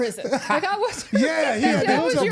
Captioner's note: R-Truth laughing